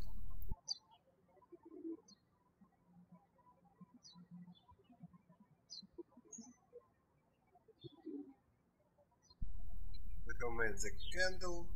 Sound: birds chirping

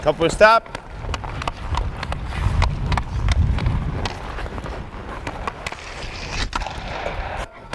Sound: skates scraping; stick hitting; puck hitting

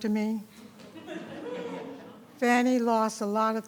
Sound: people chuckling

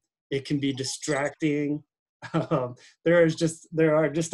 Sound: laughing

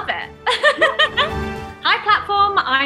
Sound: laughter

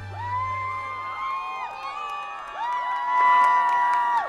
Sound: audience cheers

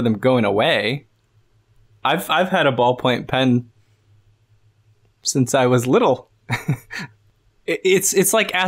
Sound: chuckles

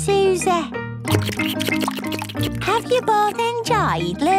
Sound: slurping

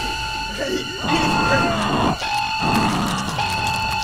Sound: body thuds; alarm blaring; flesh squelching

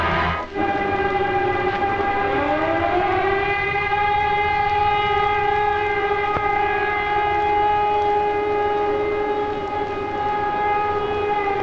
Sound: sirens

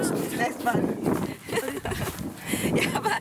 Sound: laughs

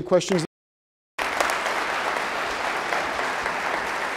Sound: applause

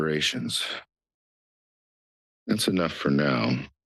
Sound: pause

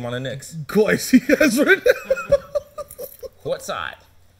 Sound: laughing

